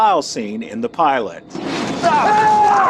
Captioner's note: women screaming